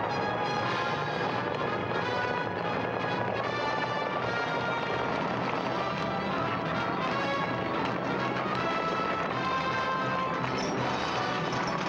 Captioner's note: hooves pounding; dramatic music